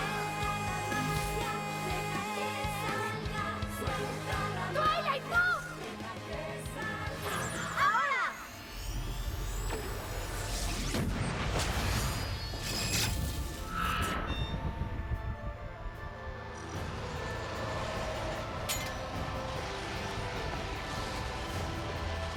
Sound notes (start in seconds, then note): 9.4 zaps and explosions